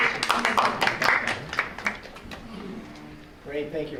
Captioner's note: applause